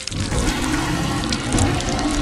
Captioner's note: growl